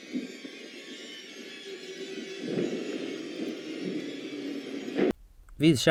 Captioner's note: audio from show